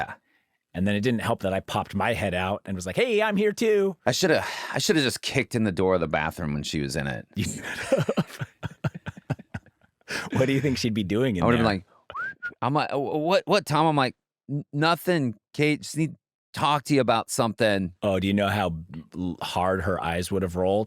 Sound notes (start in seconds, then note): 7.4 laughter; 12.1 whistles